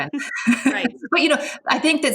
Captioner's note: laughs